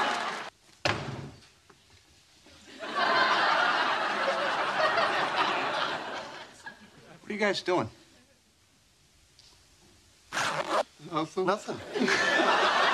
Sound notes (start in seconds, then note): 11.9 laughs